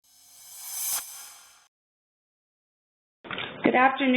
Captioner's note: sound effect